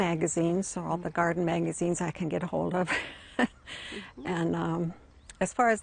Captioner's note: laughs